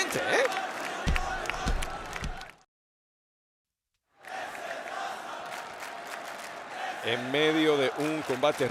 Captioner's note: applause